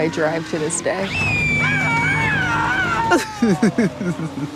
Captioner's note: Caleb screaming; Caleb laughing